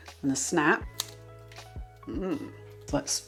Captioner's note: snap